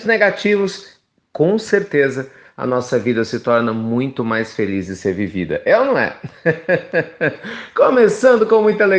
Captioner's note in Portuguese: risos